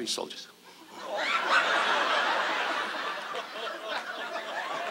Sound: audience laughs

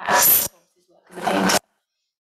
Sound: audio breaks

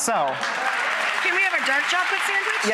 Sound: applause

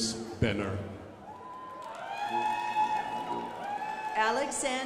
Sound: crowd applauding

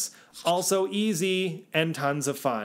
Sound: graphics swish

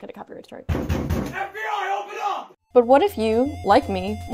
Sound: audio clip saying "FBI OPEN UP"

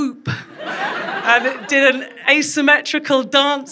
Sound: crowd laughs

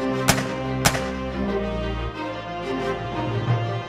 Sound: dramatic music; gun fire; dramatic music

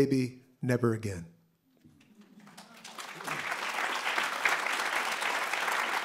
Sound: applause

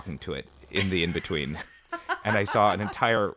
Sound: laughs

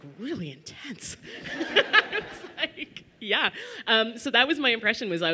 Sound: laughs

